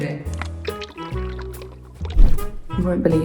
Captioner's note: viscous liquid pours; bouncy music